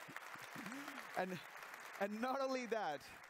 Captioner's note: applause